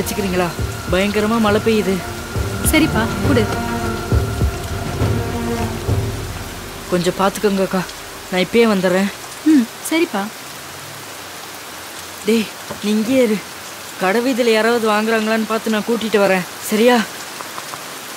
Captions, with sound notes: I will go asking around on the road and if anyone wants to purchase, I’ll get them here. Is that okay? (Rain sounds) (Rain falling on roof)